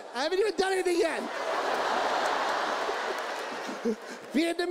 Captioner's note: audience laughs